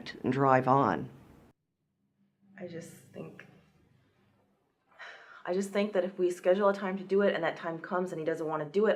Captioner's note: sigh